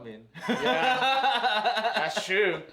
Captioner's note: both laughing